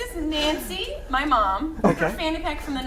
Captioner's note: laughter